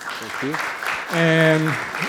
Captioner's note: audience applauding